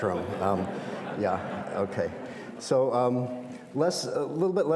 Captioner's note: audience laughs